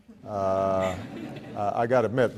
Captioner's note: laughs